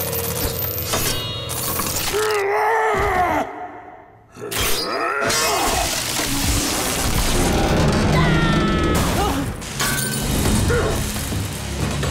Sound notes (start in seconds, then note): 2.0 grunting; 7.2 screaming, thudding; 10.2 grunting